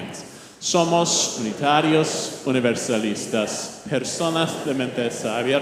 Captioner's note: congregation speaking in Spanish